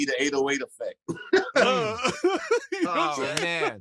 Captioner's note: laughter